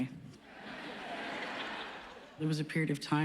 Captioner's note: laughs